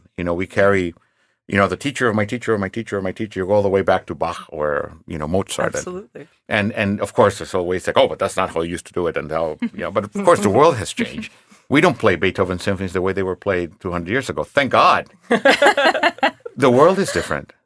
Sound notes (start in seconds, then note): 9.6 chuckling; 15.3 laughing